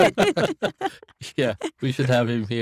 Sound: everyone laughing

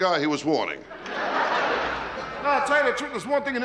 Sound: audience laughing

